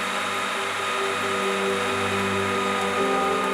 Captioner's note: whirring noise of lathe cutting